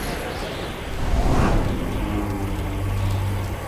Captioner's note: wind gusting